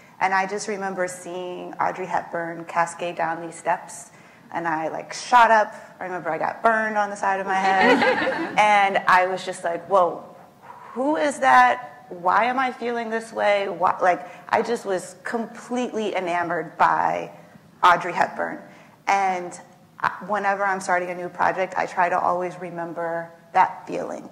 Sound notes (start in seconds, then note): 7.7 laughs